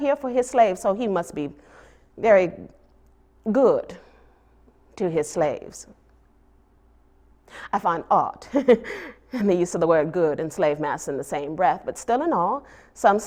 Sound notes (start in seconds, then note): 8.4 laughs